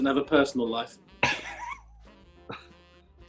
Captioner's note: chuckling